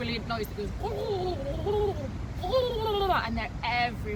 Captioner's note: mimicking pigeons